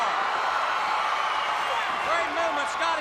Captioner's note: crowd cheering